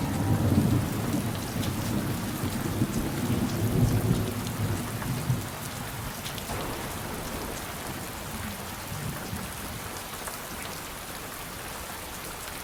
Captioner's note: rain & thunder